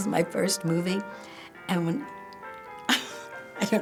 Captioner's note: laughing